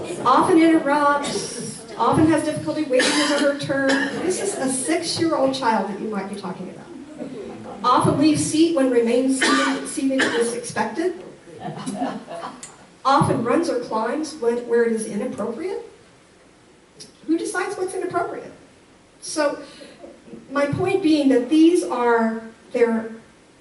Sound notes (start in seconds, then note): 11.5 audience laughs